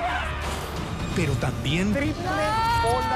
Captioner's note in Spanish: grita